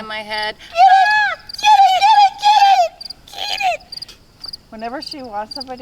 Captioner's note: people screaming